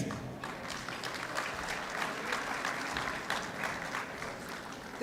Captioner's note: applause